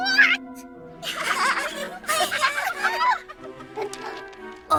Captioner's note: all laughing